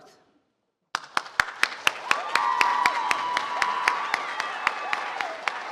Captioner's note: audience applauds and cheers